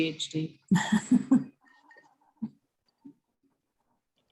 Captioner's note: laughing